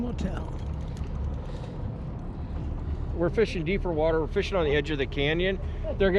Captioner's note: boat engine idling